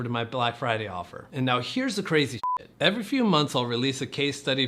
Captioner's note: beep